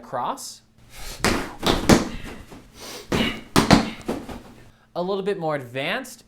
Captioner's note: kicking and punching thuds